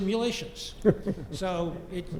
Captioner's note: laugh